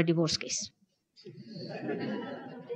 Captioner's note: laughter